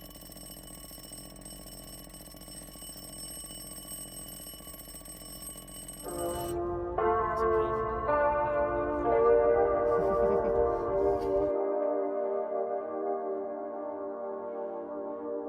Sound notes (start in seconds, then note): 0.0 alarm clock rings; 6.0 mellow electronic music; 9.4 chuckles